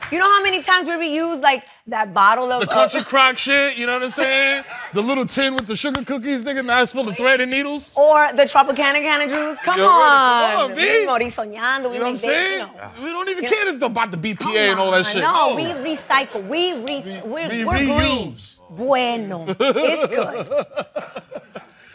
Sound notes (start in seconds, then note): 10.8 spanish